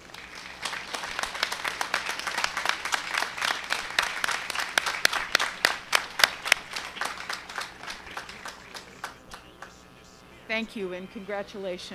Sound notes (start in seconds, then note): 0.0 applause